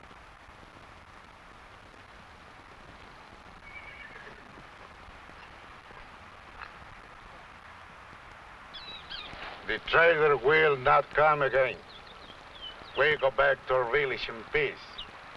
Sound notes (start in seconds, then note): 3.6 horse neighing; 8.7 bird chirping